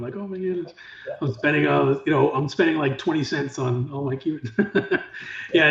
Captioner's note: laughs